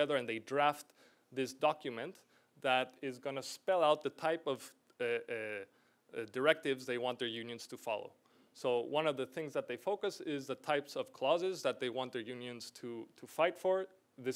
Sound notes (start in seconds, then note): none